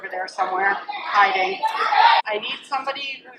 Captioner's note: children shouting